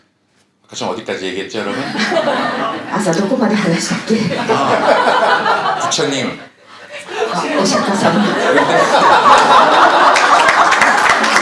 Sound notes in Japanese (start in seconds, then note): 4.0 爆笑; 8.1 大爆笑